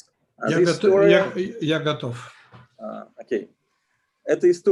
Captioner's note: translator speaking Russian language